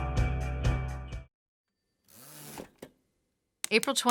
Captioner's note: pulsing rock music; typewriter sounds